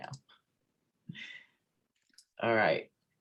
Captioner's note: mouse clicks